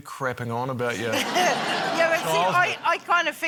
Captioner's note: laughter